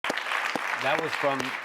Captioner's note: applause